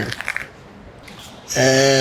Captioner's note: bones cracking